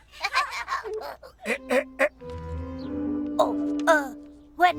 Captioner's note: all laughing; Mr. Hornsby clears throat